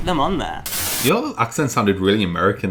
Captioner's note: static